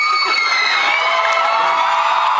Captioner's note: cheers, applauds